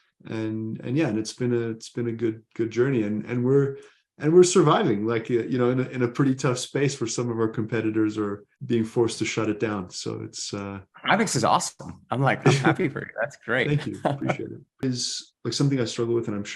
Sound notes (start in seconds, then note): 12.4 chuckles